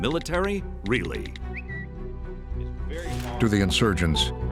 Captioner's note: tweets